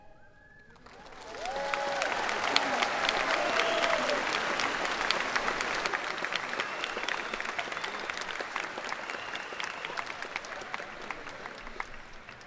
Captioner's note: cheers and applause